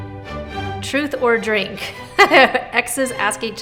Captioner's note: bright classical music; laughs